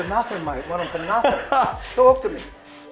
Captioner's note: laughs